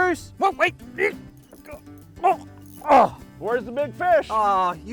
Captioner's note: grunting